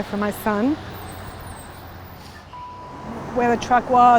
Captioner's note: sniffling